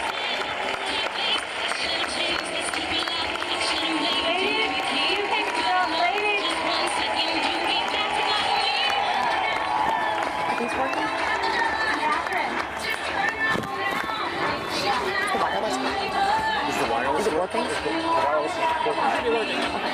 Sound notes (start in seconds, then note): 3.3 cheering; 3.3 applause